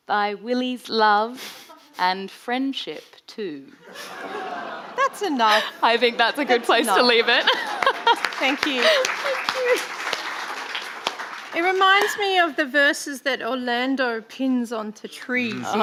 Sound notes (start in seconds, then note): 4.4 audience laughing; 8.3 laughs; 10.6 audience applauding